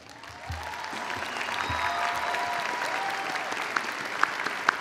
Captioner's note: audience applauding